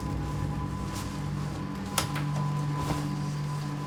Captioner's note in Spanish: Voz en la TV